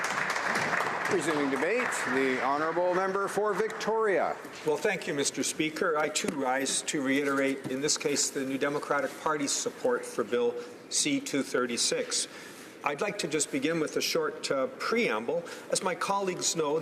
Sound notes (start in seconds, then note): 4.4 applause